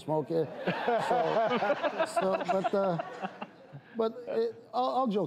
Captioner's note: audience and panel laugh